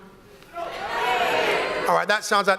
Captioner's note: audience responds